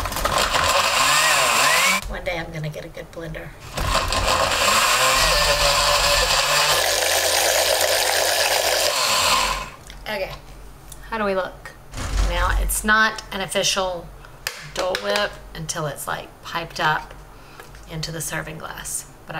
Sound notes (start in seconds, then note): 0.0 blender whirs; 3.6 blender whirs; 9.0 blender powers down